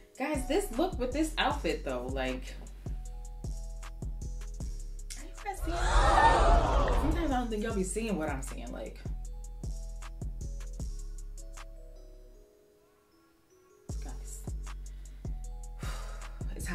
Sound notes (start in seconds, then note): 5.6 crowd gasping; 14.8 exhales